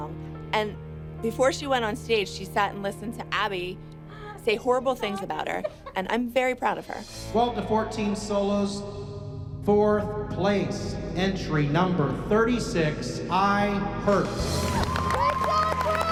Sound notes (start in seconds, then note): 6.7 cymbals sliding; 14.2 applause